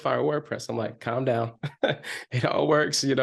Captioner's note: chuckles